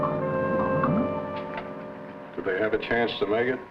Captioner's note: sonar beeping